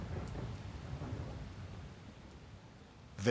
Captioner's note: thunder rumbling